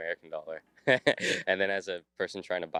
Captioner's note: chuckles